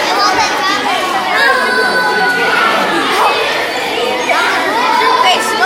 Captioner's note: students talking together